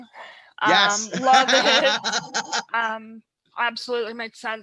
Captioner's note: laughs